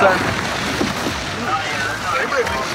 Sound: radio chattering

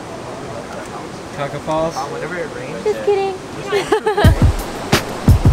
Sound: laughs

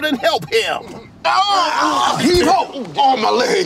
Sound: man groaning

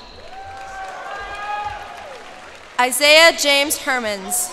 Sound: cheers and applause

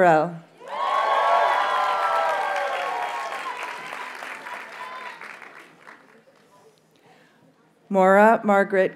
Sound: audience cheers and applauds

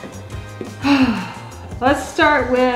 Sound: sighs

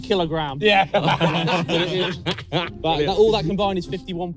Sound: everyone laughing

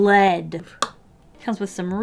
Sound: sɴᴀᴘ

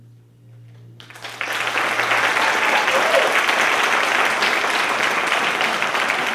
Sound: applause

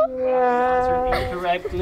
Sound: whimpers

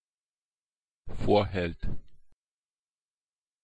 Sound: fast Pronunciation

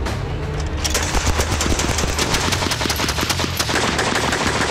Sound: gun banging

